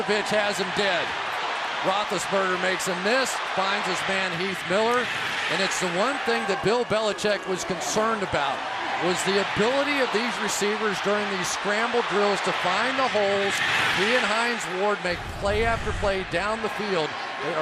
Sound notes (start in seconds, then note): 13.7 crowd cheering